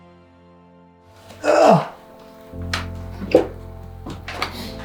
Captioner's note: grunts